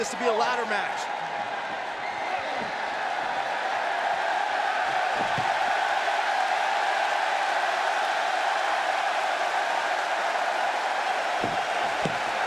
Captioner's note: crowd cheering